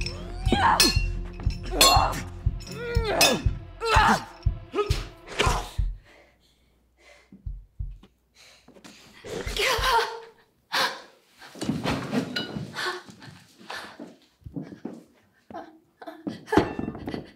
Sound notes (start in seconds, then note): 5.8 heartbeat; 9.8 Robin cries out